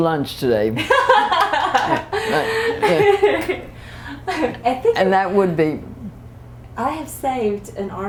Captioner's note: laughter